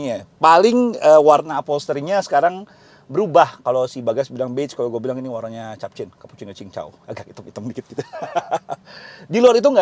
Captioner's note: laughing